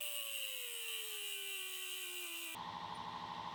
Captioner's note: grinder whirs